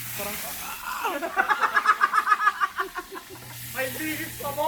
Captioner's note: laughter